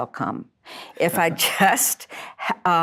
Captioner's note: chuckle